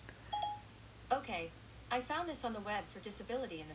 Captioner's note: phone chimes